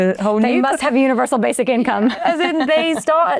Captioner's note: chuckles